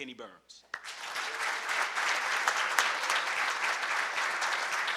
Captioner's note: audience clapping